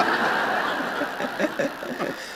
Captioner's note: laughter